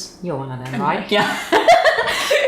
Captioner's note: both laughing